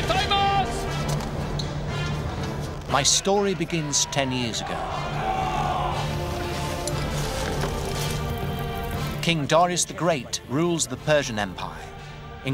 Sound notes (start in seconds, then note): 0.1 Themistocles shouting in foreign language; 5.1 Athenian soldiers shouting